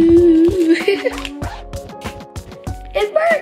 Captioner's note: laughing